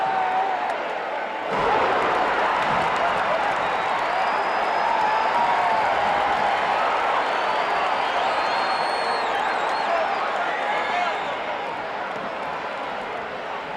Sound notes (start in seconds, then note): 5.9 audience chattering